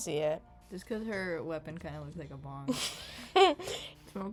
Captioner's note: laughs